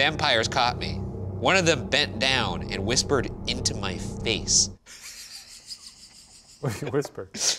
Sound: laughs

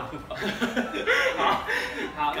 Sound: laugh

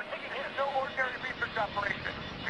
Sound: radio

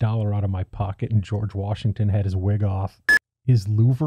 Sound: beep

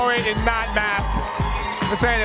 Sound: audience cheering

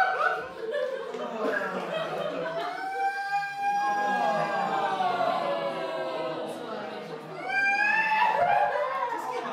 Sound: MAX continues crying

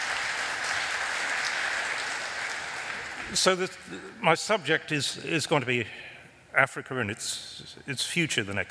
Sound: applause

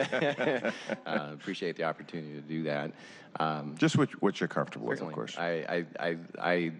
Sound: laughter

